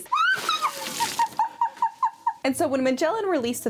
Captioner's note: laughing